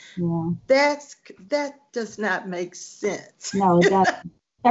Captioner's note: laughing